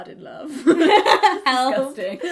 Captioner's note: laughs